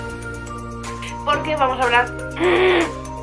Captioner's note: angry noise